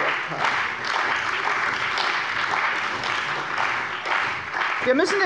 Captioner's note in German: Beifall bei der CDU und dem BÜNDNIS 90/DIE GRÜNEN